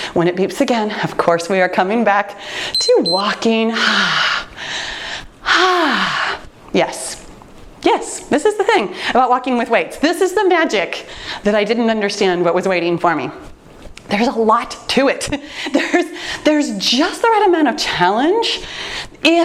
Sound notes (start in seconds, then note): 2.7 timer beeps; 3.8 exhaling deeply